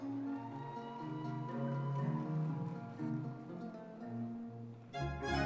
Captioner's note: audience members cheering